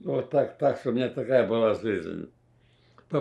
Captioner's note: sniffling